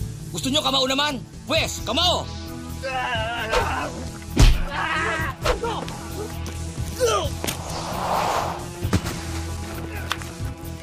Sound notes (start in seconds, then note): 2.9 goon yells, screams